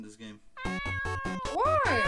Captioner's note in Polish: maiuuu